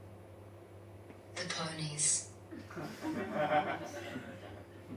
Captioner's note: audience laughs